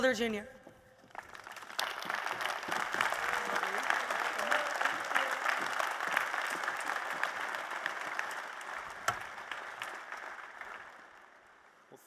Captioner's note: applause